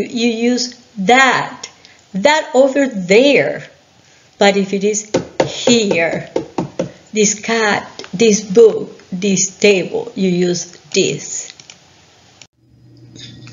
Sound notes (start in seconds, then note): 5.1 tapping the desk